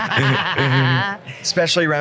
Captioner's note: laughs